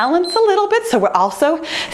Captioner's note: timer beeps